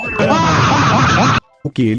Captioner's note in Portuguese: risadas